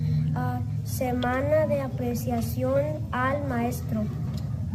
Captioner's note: child speaks Spanish